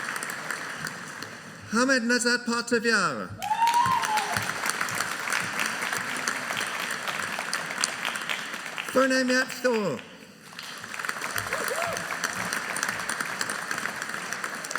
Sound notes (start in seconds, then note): 3.4 audience cheering; 10.4 audience applauding